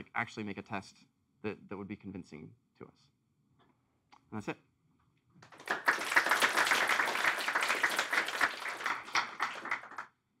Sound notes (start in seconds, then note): 5.4 applause